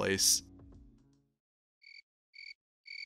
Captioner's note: crickets